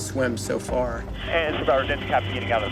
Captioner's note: man Over Radio